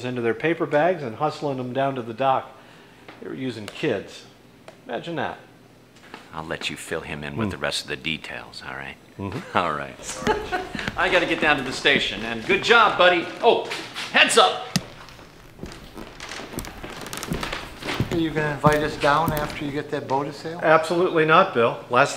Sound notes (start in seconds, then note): 9.0 laughs; 16.0 floor creaking